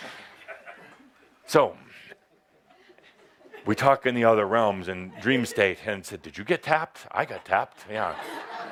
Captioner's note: laughter